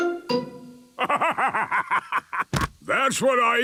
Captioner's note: bursting laughter